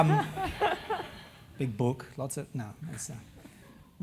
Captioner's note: laugh